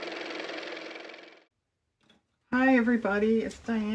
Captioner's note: car motor